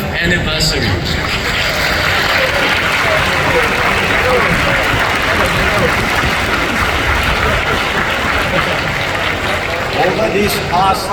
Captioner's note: applause